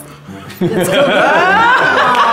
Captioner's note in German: Gelächter